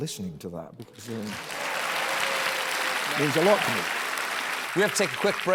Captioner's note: applause